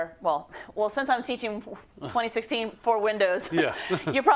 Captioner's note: laugh